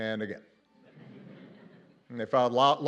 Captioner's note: laughter